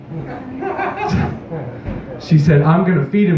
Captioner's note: nearby laughter; chuckle; scoffs into microphone